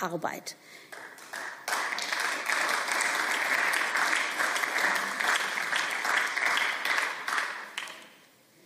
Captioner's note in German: Beifall